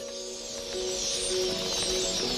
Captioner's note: all chirping